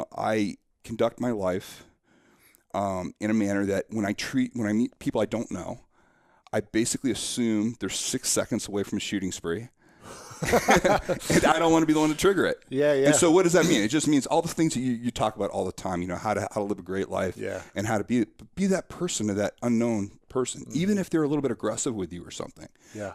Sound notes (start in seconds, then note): 10.2 laughing